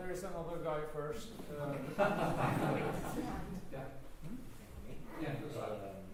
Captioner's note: laughter